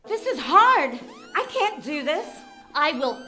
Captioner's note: siren sounds